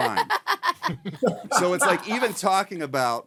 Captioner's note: laughing